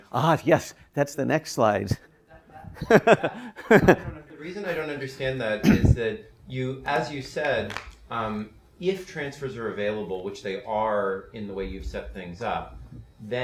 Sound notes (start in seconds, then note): 2.3 laughs